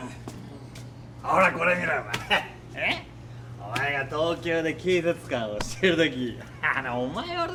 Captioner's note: customer speaking in foreign language